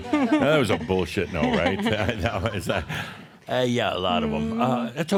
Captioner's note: they chuckle; she chuckles